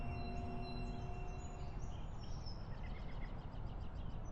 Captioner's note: birds twittering